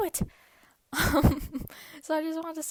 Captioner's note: giggles